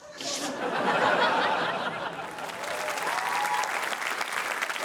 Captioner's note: laughter, applause